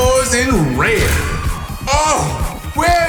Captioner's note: orgasmic swoon